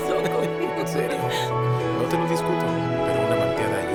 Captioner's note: Emma laughs